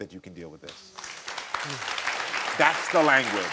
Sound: crowd clapping

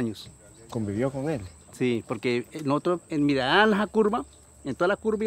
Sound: speaking in foreign language

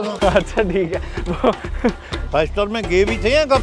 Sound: chuckles

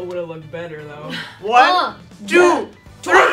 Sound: laughs

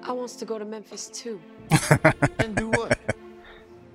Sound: laughing

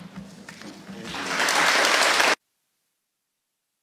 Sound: members applauded

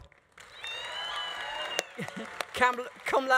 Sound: audience applauding; audience cheering

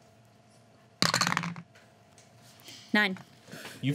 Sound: clatter

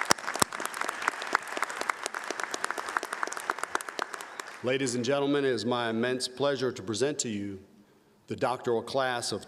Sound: applause

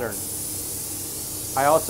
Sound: spray paint sprays

